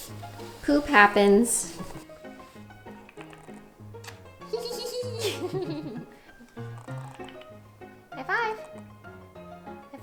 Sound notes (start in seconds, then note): 4.0 kiss; 4.4 giggles